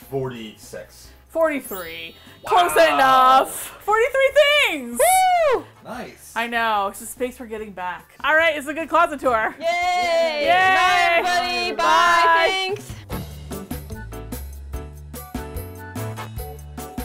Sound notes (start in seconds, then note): 0.0 indignantly; 4.9 woos; 13.5 upbeat Music